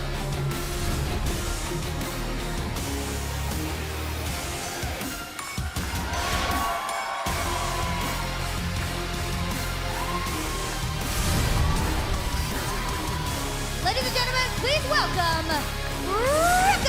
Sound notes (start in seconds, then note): 7.4 crowd cheering